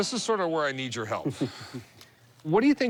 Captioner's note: chuckles